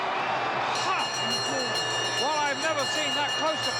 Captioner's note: bell chimes